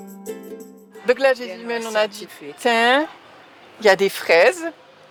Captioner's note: French spoken audio